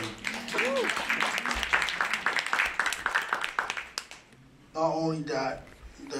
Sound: applause

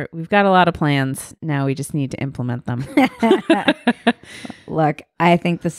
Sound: laughing

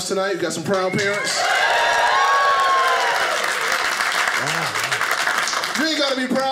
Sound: audience cheers

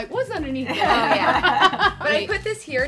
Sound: laugh

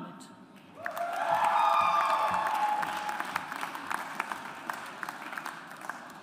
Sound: audience applauds

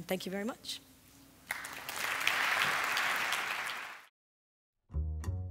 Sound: applause

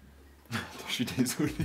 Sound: laughs

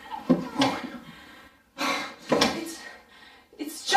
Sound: breathing heavily

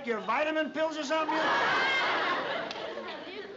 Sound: laughter

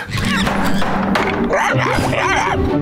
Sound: barking

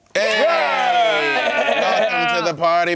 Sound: cheering

